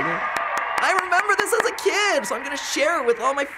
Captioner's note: sarcastically